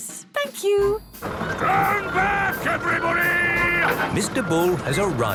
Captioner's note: shouting